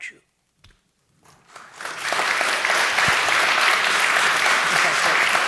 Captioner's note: audience applauding